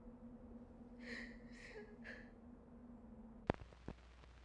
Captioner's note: crying